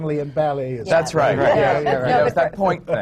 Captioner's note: laughter